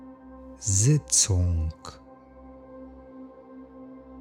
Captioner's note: german